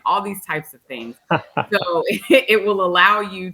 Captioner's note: all laughing